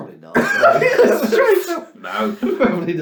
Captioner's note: laughs